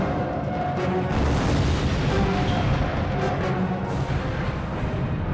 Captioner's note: explosion booming